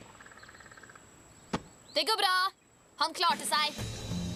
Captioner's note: none